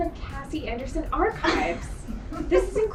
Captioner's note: laughing